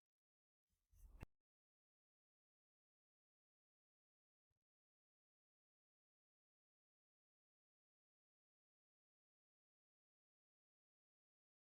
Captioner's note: silence